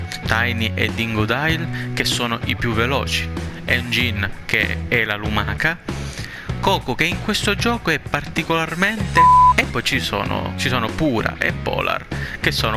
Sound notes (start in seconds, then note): 9.1 beep